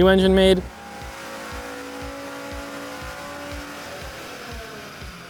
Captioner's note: car engine roaring